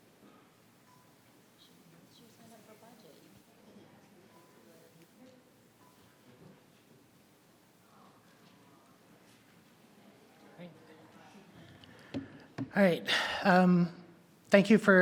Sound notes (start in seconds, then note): 2.3 faintly speaking